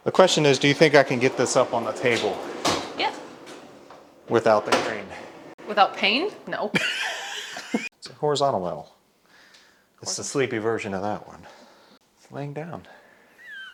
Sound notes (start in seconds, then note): 6.7 laughs